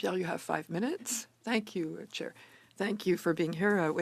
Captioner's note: speaking French